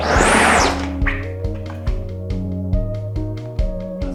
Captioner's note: tool whirring